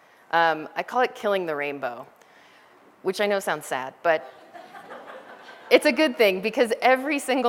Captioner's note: laughter